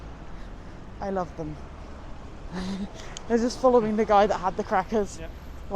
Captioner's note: giggles